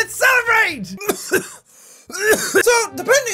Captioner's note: coughs